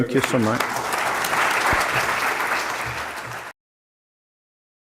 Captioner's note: audience clapping